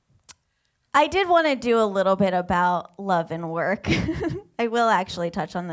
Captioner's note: laughs